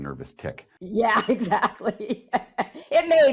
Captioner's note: laughs